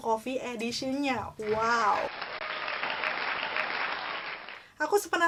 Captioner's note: applause